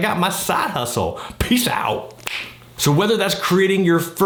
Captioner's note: finger snapping